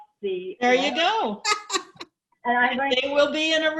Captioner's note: woman laughs